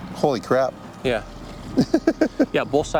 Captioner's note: laughing